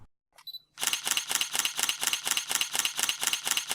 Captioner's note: shutter clicking